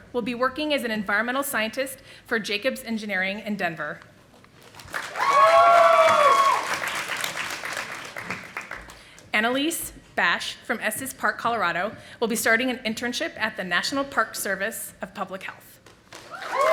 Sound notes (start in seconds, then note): 4.7 audience applauding